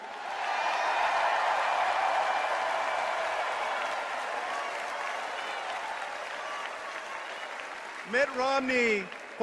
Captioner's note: cheers and applause